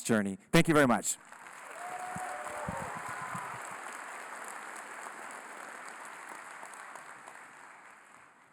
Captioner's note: applause, Cheering